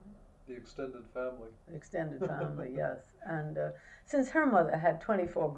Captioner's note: laughs